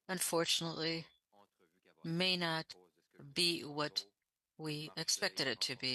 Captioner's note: speaking French